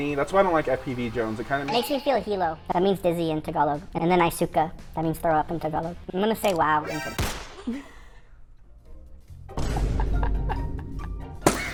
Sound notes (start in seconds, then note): 7.2 discordant music; 7.2 object thudding; 9.8 laughing; 11.4 balloon popping